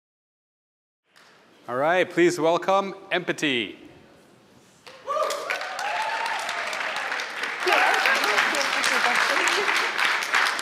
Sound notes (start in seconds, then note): 5.1 applause